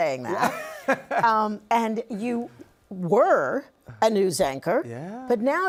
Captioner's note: laughs